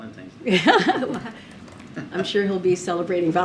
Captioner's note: laughs